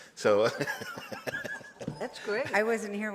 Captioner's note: laughs